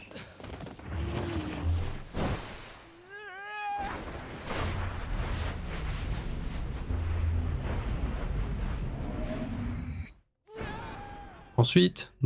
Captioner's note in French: cri